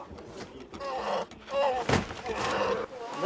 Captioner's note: bear cries